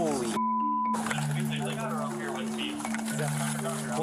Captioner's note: indistinct chatter